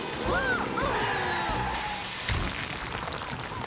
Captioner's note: tires Screech; crash